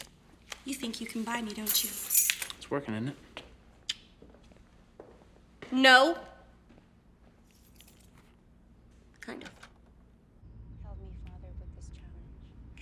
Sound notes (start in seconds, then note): 1.6 keys jangling; 7.5 keys jangling; 9.4 door clicks open